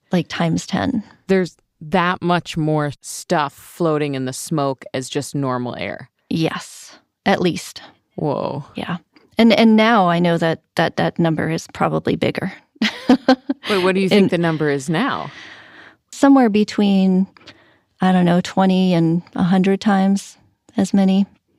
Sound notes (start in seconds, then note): 13.0 laughs